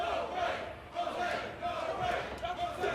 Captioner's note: fans chanting